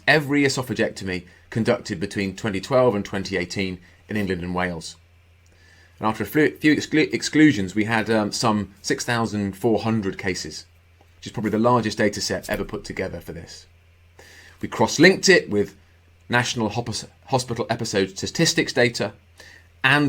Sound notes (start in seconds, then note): none